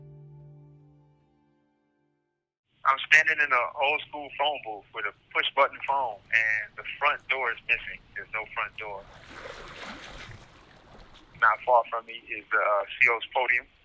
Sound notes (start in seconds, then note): 9.1 ocean sounds